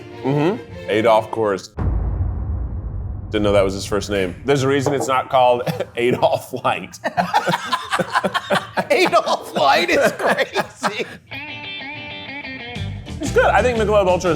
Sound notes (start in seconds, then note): 1.8 tense music; 7.2 both laughing